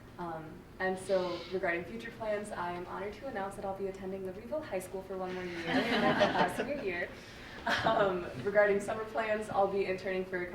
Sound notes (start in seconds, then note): 5.4 group laughing